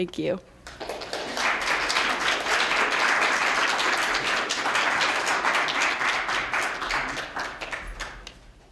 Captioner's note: applause